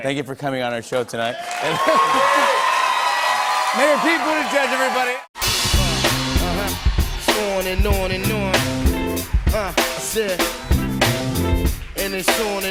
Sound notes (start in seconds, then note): 2.2 cheers and applause